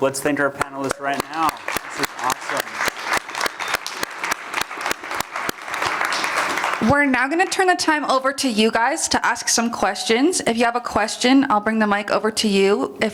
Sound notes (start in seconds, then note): 2.7 applause